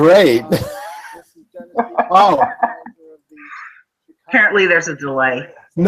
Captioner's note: laughing